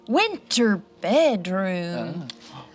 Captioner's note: none